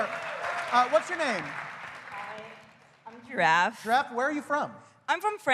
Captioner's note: applause